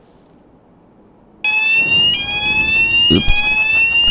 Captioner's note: fire alarm